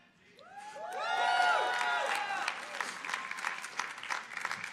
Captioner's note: audience cheering